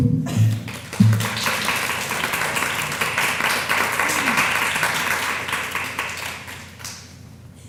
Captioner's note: applause